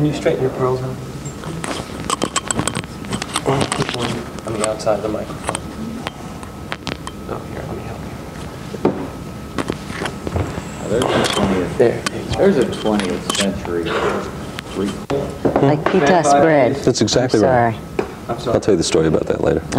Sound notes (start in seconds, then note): 10.0 distant chattering